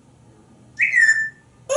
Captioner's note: whistling